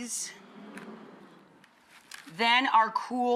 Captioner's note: audience sighs